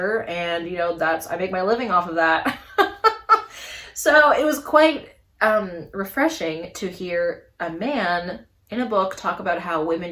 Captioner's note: laughs